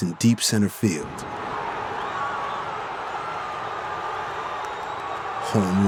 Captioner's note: crowd cheers